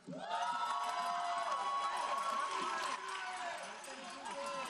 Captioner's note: audience applauding